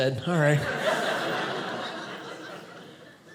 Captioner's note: audience laughing